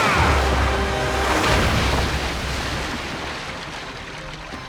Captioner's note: screaming; splashing